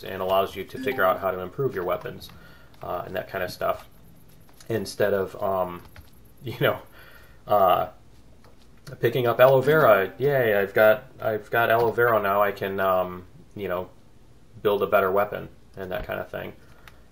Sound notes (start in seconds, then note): 5.4 laughs